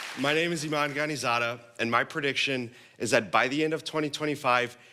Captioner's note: applause